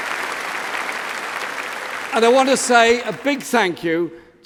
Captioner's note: applause